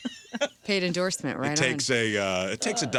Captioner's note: laughing